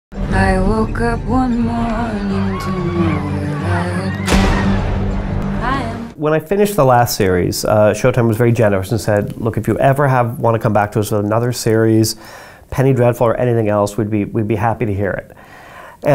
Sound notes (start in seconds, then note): 4.3 gun fires